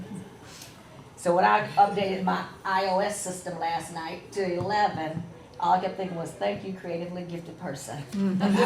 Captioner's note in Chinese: 笑声